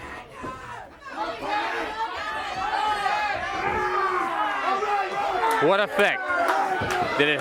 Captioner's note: crowd chatter